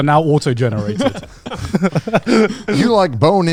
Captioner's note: laughing